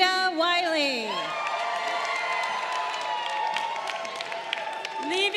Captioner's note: crowd cheering